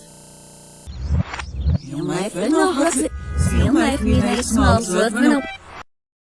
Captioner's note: reversed demonic chanting